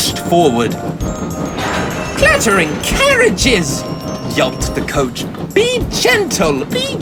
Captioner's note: loud bump